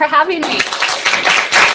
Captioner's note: applause